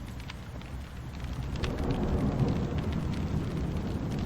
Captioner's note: fire roaring